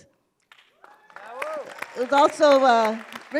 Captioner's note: cheer